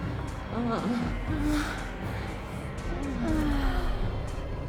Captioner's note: people moaning